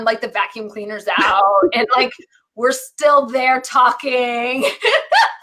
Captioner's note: laughs